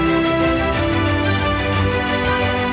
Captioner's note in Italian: Applauso